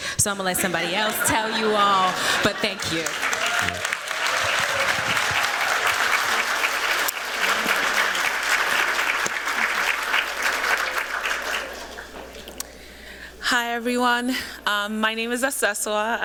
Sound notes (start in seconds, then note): 3.6 applause